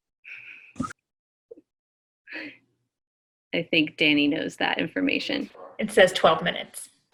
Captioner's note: laughs